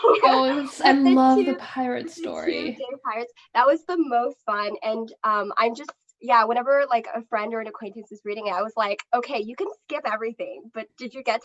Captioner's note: laughter